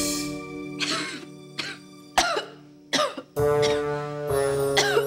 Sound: girls coughing

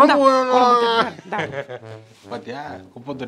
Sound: laughing

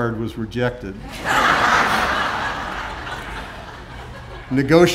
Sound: audience laughing

